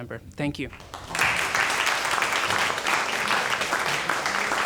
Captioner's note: applauding